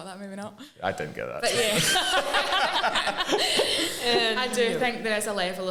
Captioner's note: laughing